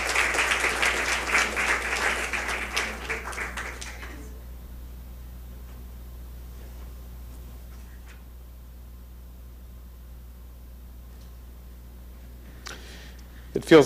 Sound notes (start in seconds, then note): 1.9 crowd applauding